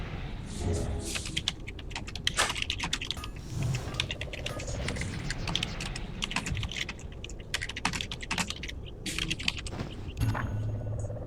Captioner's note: typing sounds